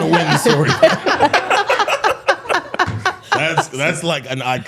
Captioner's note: all laughing